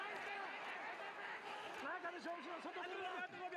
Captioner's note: cheering